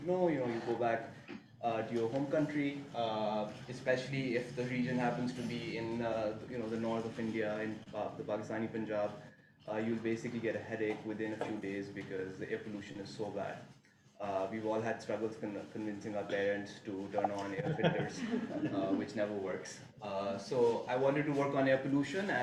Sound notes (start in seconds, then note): 17.2 laughing